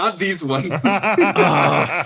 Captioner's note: laughs